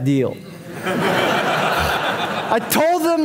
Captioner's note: audience laughing